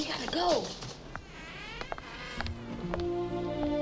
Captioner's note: door creaking; gentle nostalgic music